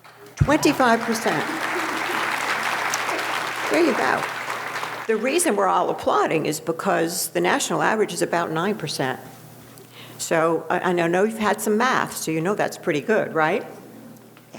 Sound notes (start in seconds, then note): 1.9 audience applauding